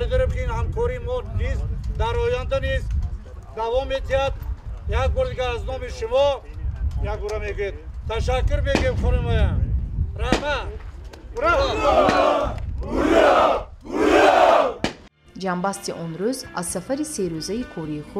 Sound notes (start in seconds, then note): 2.2 speaking in tajik; 11.3 military members cheering